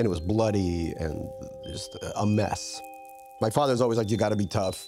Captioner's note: light chiming